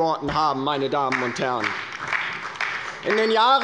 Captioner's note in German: Beifall bei der LINKEN und der SPD